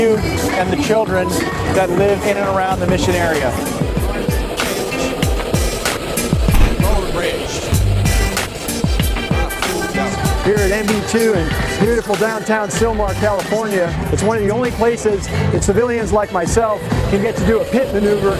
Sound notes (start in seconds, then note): 6.8 go-kart engines whirring